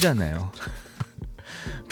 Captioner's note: laughs